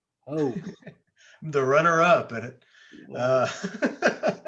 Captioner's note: laughs